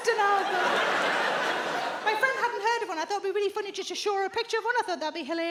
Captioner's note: audience laughs